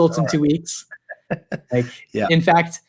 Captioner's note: laughs